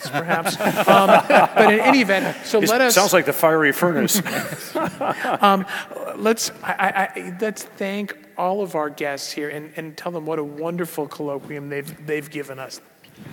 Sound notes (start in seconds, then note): 0.0 laugh